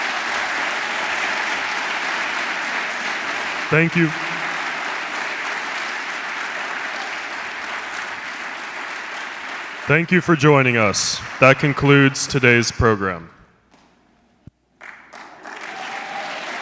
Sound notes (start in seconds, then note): 12.5 applause